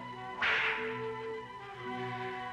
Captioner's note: cracking whip